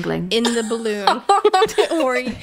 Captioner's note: laughing